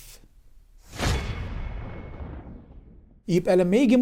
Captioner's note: sound effect